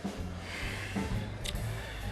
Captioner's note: sighs